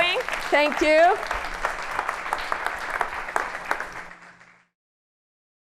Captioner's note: applause